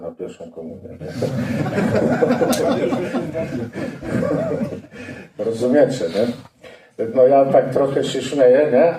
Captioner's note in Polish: śmiech